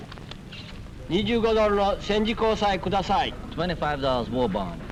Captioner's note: speaking Japanese